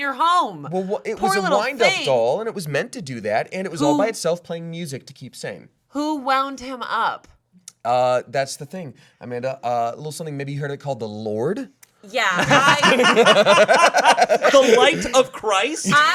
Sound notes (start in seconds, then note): 12.3 laughing